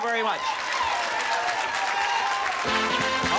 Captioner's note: cheering and applause